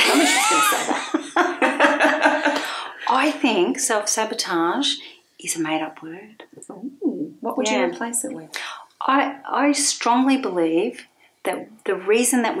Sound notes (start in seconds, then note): 2.3 both laughing